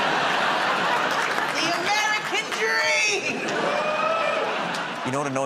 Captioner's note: laughter; laughter